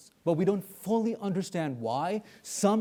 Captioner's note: none